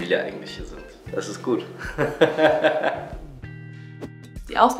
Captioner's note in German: Lacht